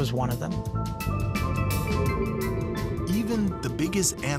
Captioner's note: whale song